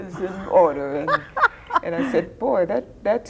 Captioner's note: laughing